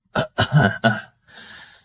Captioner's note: coughs violently